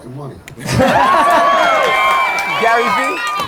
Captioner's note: audience laughter